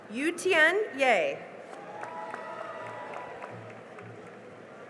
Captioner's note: cheering and applause